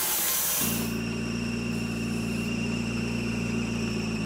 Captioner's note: engine idling